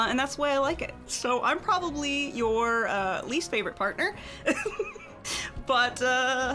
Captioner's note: laughs